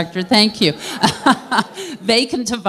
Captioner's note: laughter